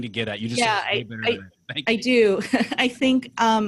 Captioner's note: laughs